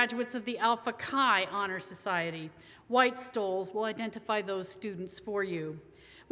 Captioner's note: none